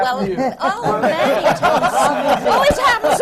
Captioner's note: laughter